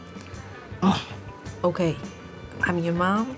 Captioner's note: sighs